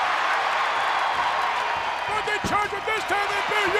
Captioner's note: crowd cheering